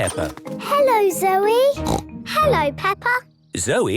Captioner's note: snort